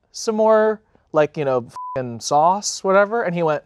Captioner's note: beep